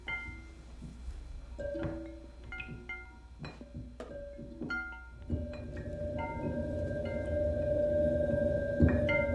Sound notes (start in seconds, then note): 1.7 dripping